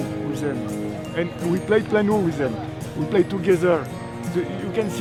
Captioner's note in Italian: Inglese